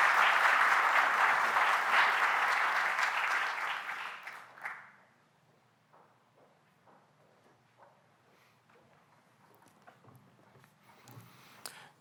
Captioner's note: applause